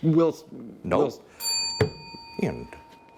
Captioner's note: bell dinging